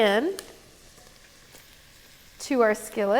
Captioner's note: oil sizzling